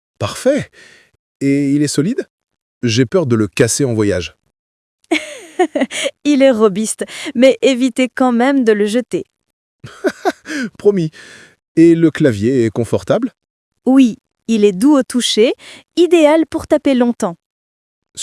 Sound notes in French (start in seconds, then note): 9.8 rire